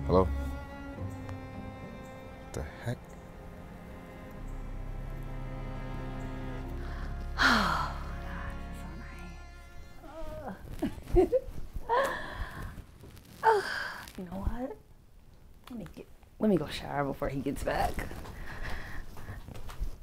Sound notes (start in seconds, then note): 10.5 laughing